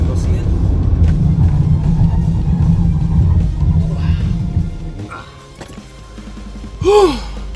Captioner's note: tyres squealing; gasps